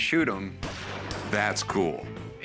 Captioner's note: gunshot